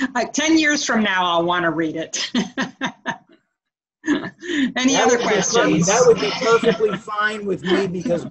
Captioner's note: laughter; laughter